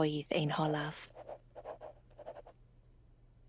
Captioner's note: pen swishing